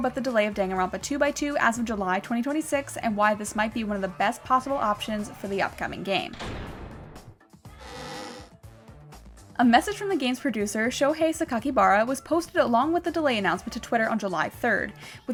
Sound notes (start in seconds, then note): 7.8 gavel bangs, door creaks